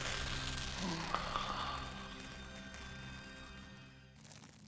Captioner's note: sighing